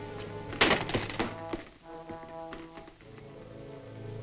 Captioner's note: swords thud